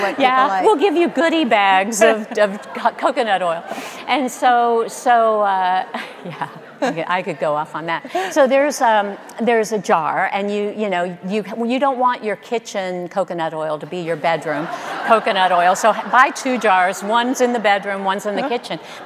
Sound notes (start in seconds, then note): 5.7 audience laughing